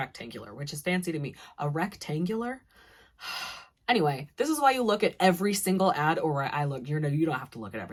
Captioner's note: sigh